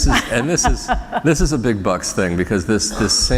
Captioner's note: laughter